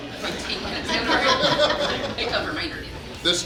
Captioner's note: hahaha